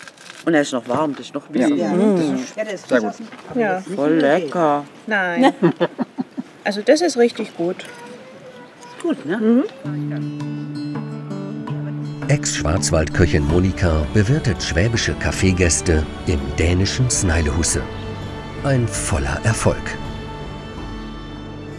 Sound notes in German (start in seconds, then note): 5.4 Lachen; 10.4 Ruhige Musik